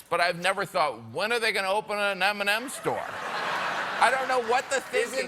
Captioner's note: laughter